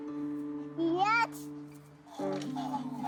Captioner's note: noise from toy